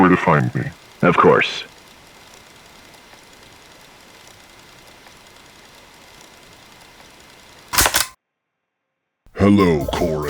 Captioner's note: tape ends